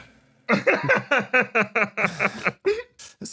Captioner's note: laugh